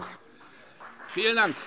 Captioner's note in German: Beifall CDU und BÜNDNIS 90/DIE GRÜNEN